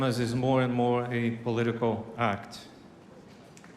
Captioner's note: cheers and applause